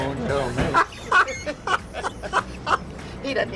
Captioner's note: laughs